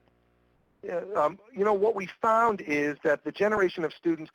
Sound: voiceover

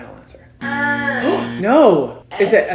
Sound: buzzer

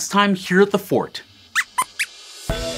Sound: squeaks squeaks

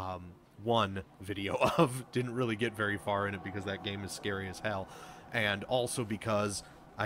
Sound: laughs

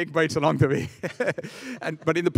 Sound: laughing

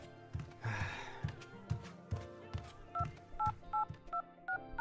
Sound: sigh

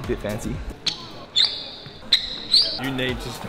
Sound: shoes squeaking

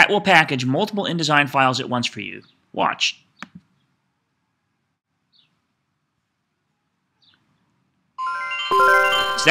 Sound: computer chimes

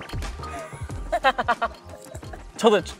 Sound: laughing

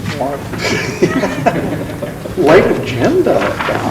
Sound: laughs

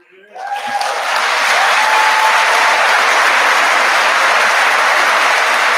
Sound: audience applauding

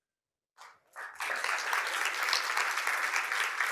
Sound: applause

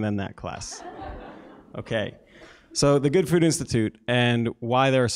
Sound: laugh

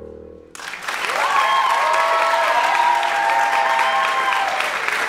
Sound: crowd applauds

